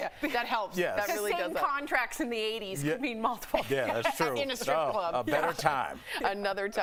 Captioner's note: laughter